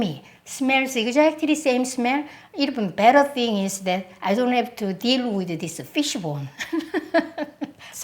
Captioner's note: laughs